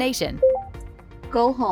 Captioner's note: vehicle beeping